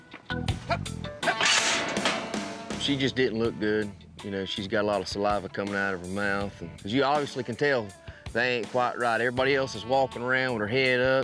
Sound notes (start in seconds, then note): 1.2 clanging sound